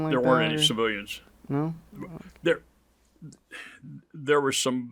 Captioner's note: sighs